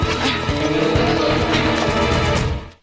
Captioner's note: groaning